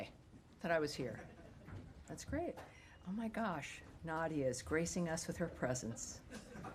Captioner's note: laughter